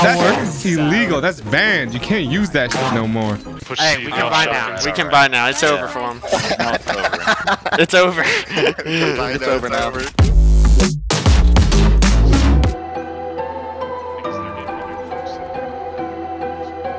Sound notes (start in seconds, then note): 5.7 laughing; 8.4 laughs; 10.2 upbeat music; 11.2 bright music